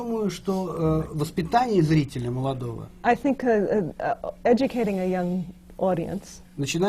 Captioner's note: foreign language not transcribed